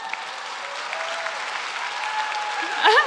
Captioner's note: cheers